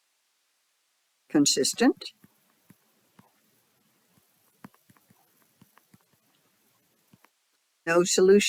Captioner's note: 6-second silence